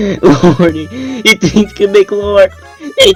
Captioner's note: weeze